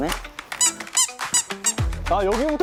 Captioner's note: tiptoeing